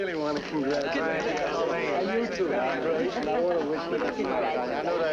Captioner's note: chattering